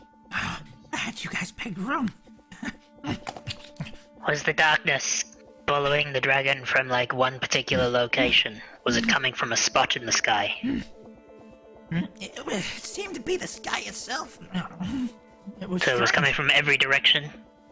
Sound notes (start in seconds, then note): 3.4 chomping